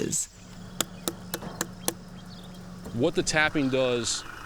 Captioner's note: tapping the watermelon